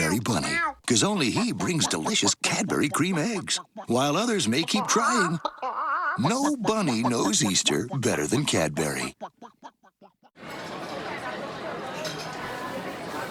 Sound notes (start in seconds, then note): 6.6 animal noises continue; 10.3 restaurant noise